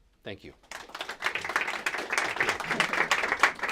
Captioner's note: applause